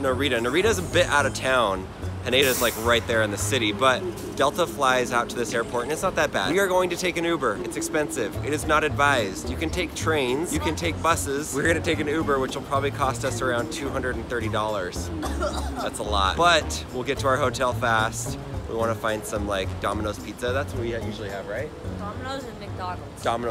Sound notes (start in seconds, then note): 15.1 coughs